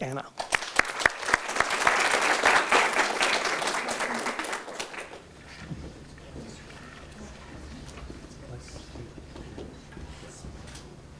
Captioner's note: audience Applause